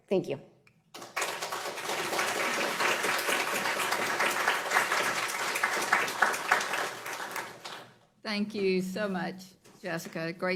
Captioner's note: applause